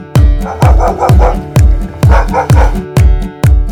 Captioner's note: dog barks